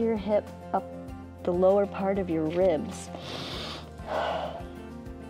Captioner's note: inhales and exhales